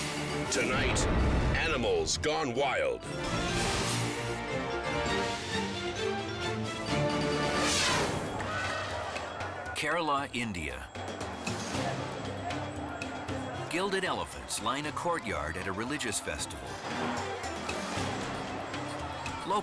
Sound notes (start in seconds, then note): 7.5 elephant trumpets; 10.8 dramatic music